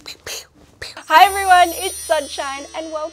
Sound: bells tinkling

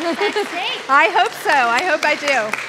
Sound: applause

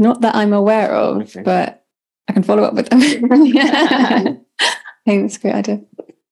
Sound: laughs

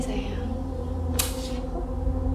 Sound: KUNCORO clicks his tongue loudly

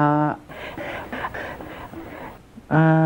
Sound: more breathing

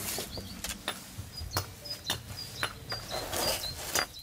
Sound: banging, birdsong

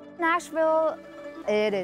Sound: child's Voice

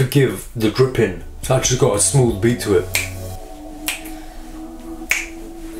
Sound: clicks fingers

